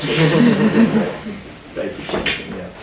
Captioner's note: students laughing